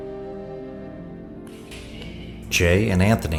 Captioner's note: hands slapping